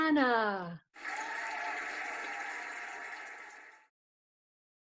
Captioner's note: cheering and applauding